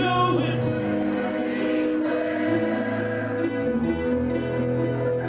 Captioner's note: crowd